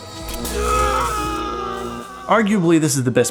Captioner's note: screaming